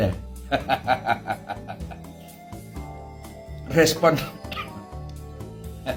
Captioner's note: laughs